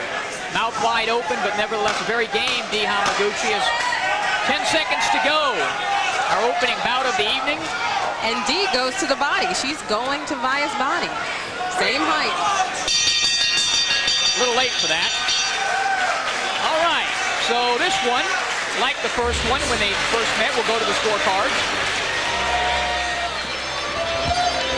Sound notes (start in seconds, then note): 17.0 bell rings to end round 6; 24.5 cheering from audience, music